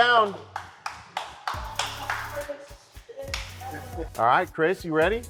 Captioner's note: contestants applauding